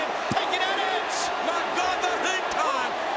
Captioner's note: audience cheering